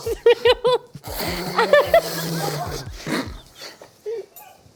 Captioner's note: loud Slurping